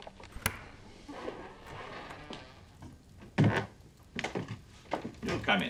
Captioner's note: door creaks